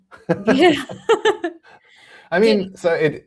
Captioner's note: laughter